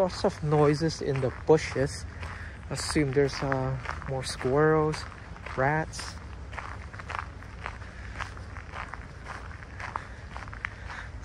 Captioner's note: walking on gravel